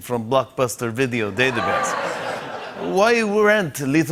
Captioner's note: laughter